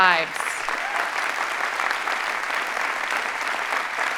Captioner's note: audience applauding